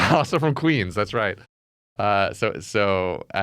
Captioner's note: laughs